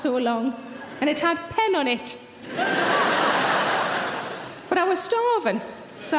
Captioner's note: audience laughs